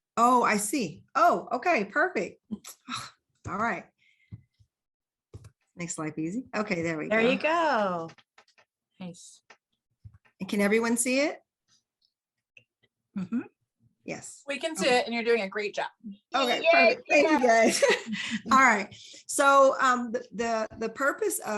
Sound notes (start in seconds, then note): 18.3 laughs